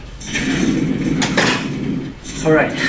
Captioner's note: door clicks